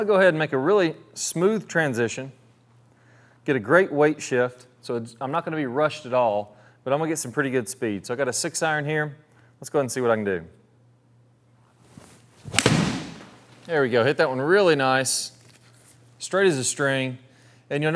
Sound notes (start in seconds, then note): 12.4 golf ball hitting